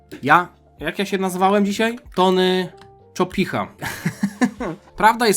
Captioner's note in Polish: śmiech